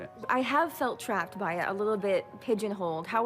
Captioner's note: none